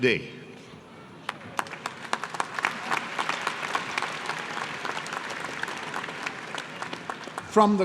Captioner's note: applause